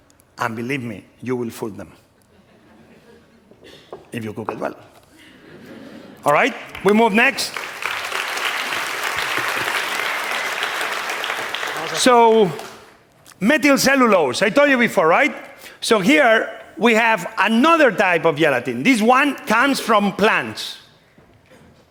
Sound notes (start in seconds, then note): 7.9 applause